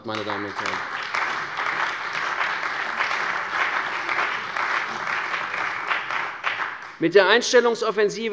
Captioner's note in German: Beifall bei der CDU und dem BÜNDNIS 90/DIE GRÜNEN